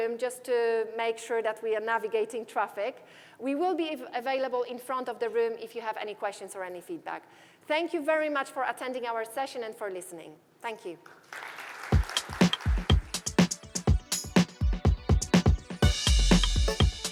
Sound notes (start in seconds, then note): 11.0 applause